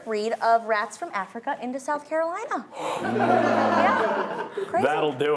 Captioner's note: laughing